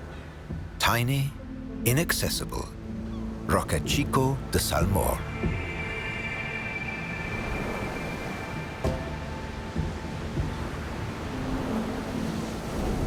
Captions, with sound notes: tiny, inaccessible Roque Chico de Salmor. (waves crashing) (light music)